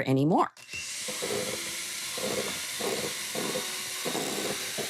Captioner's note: mixer whirring